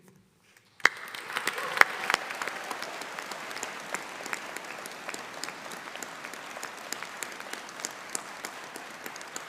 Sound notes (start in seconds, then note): 0.7 audience applauding; 0.8 audience cheering